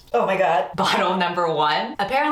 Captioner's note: laughing